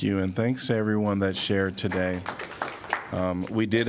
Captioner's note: applause